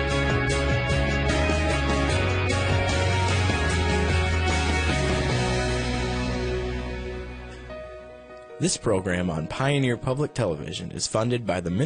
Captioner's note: voiceover